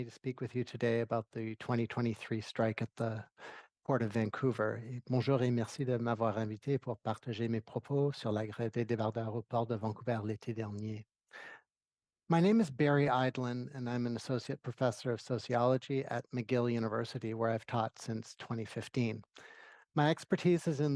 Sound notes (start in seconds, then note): 10.0 speaking French